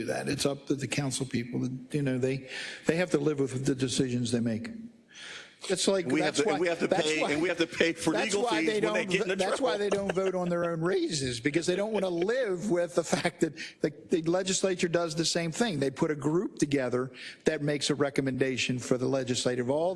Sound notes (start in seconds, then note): 9.1 laugh